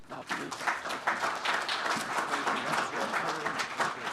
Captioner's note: audience claps